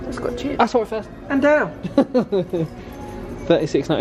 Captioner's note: laughs